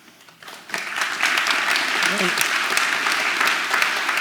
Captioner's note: audience applause